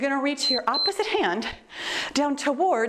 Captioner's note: timer beeps